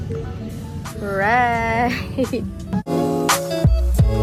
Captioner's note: laughs